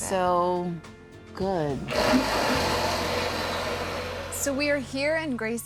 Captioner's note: blender whirring